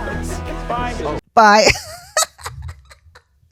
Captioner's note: laughter